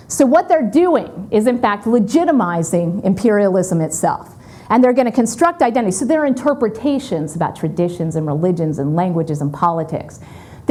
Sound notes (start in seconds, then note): none